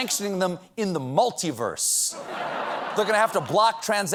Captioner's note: laughter